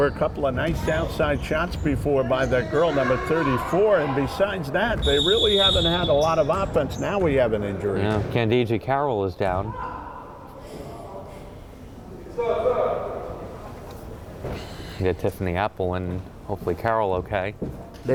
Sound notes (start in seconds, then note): 5.0 whistle blowing